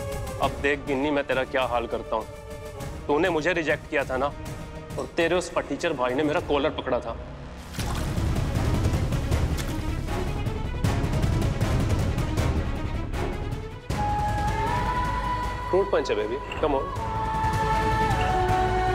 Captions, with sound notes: Gini, just wait and see what I do to you. You rejected me. Your loser brother grabbed my collar. [splashing water] [pensive music playing] 'It's a fruit punch. Come on.'